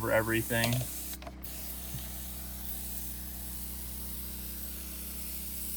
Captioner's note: pump action sprayer spraying